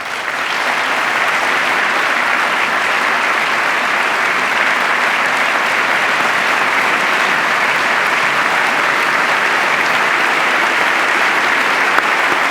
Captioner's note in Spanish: aplauso